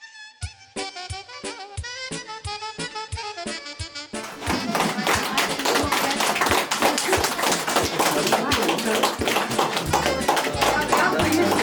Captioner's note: оплески